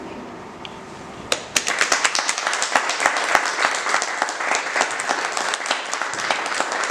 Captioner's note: applause